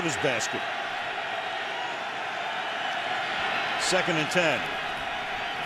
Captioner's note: cheering